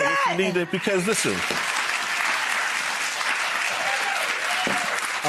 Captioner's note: crowd cheering